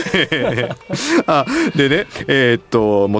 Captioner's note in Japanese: 笑い